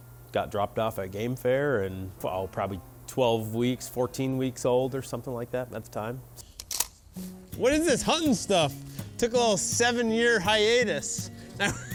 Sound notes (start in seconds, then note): 6.5 gun clicks; 11.6 laughing